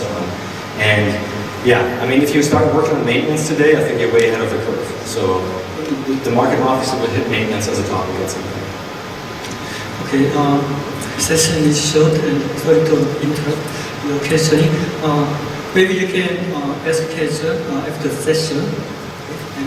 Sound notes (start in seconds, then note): 10.5 speaks in foreign language; 10.5 voiceover